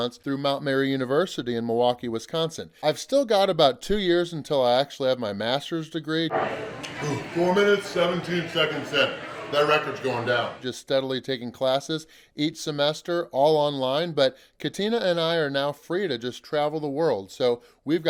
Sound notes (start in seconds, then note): 9.6 voiceover